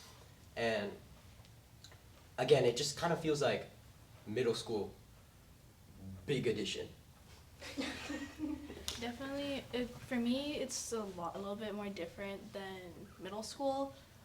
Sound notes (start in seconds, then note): 7.6 collective laughter